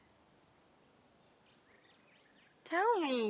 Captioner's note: birds chirping